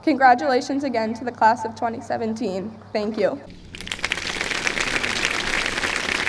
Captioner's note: applause